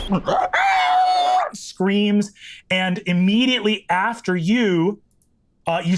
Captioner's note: Brennan imitates explosion booming; screeches